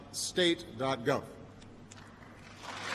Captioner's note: applause